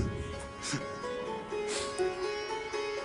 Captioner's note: laughs